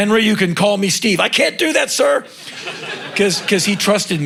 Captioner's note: crowd laughing